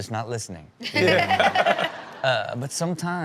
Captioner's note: everyone laughs